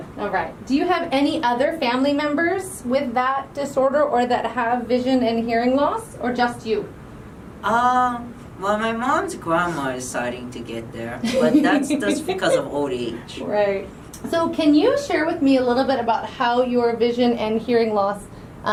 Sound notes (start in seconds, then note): 11.2 giggling